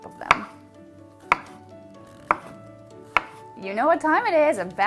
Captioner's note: chopping